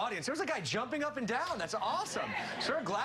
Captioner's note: cheers and applause